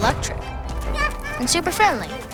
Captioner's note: child laughing